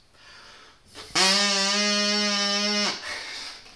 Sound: buzzing sound

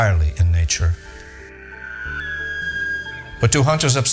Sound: elk bugle

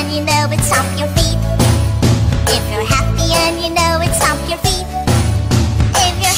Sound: stomp stomp; stomp stomp

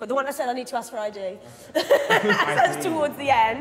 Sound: woman laughing

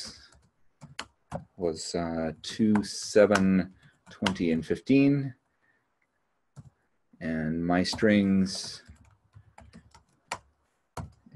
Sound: keyboard clicking

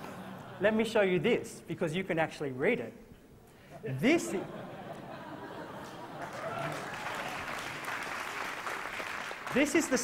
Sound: laughter

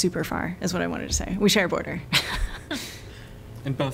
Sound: laughter

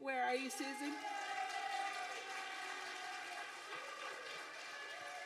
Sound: audience applauding

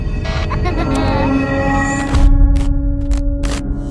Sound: child laughing

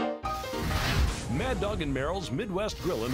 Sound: voiceover

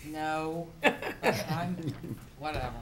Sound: laughter

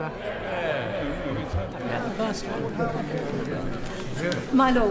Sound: members chatter

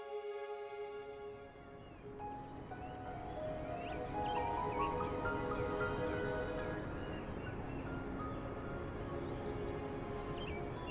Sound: Clairton Coke Works factory sounds in the background, with birds chirping nearby

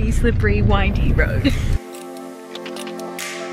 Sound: laughs

